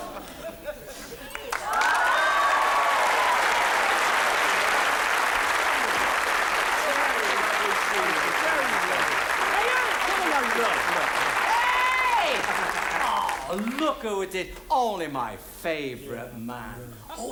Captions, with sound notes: (audience cheers) - Good to see you, very lovely. - Hey Eric, come and have a look. - Hey! Oh, look who it is. Only my favourite man.